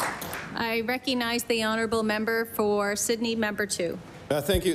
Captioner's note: applause